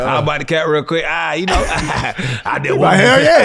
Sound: laughs

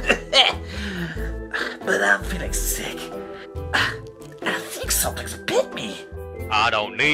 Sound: coughing

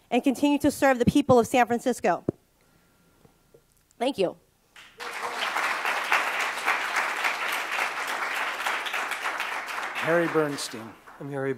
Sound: applause

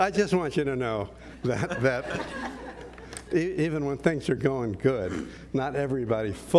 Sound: laugh

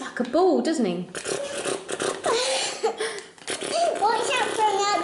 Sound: snorting sounds

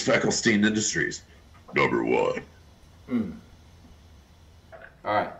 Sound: deep voice

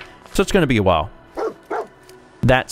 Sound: woof, woof!

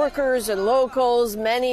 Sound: speaking Foreign Language

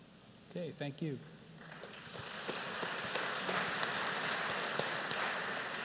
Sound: applause

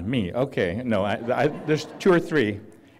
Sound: laughter

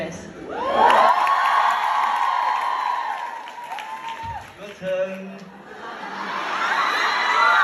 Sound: ปรบมือ

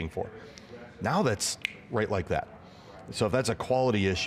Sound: snaps fingers

